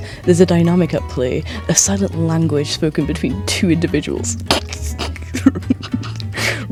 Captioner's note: giggles nefariously